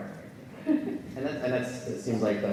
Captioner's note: laughs